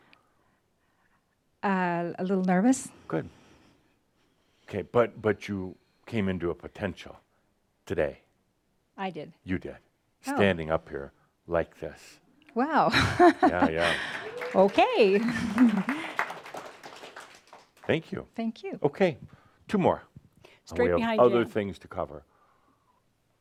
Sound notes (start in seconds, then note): 12.9 she chuckles; 13.5 some applause